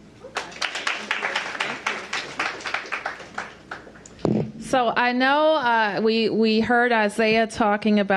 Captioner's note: applause